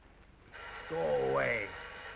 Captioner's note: phone ringing